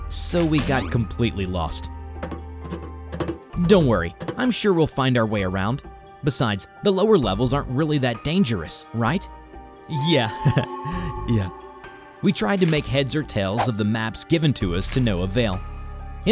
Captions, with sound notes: so we got completely lost. Don’t worry I’m sure we’ll find our way around. Besides the lower levels aren’t really that dangerous right? Yea... [weak chuckle] Yea... We tried to make heads or tails of the maps given to us to no avail.